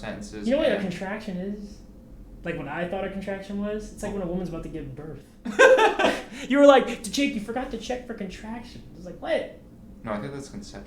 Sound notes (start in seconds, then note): 5.4 Thomas laughs